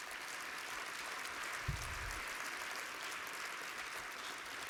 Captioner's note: applause